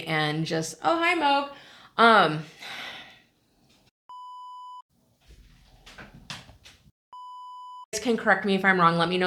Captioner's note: beep!